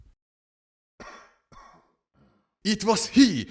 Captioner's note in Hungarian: Kínos Köhögés